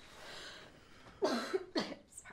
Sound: coughs

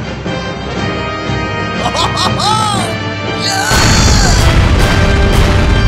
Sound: laughing

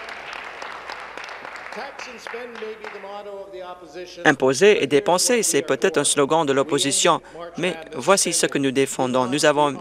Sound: applause

